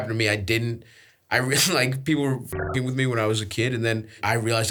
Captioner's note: beeps